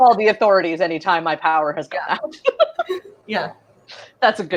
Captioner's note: laughs